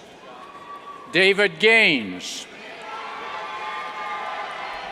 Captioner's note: cheers